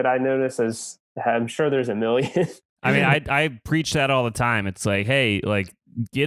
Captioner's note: laugh